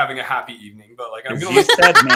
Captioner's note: laughter